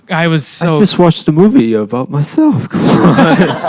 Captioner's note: defensively